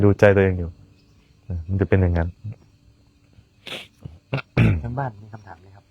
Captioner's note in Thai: เสียงสูดหายใจ